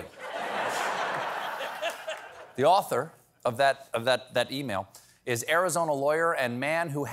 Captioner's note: laughter